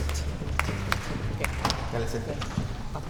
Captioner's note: in Spanish; vocalizing